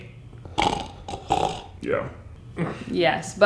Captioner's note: snoring